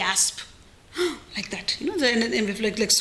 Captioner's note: gasping sound